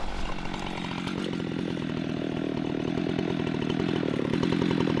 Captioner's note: saw rumbling